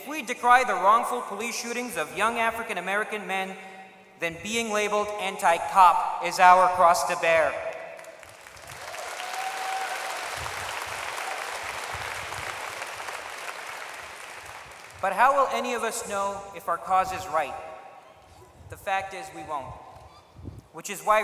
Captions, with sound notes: we decry the wrongful police shootings of young African American men, then being labeled anti-cop is our cross to bear. [applause] But how will any of us know if our cause is right? The fact is, we won't. Which is why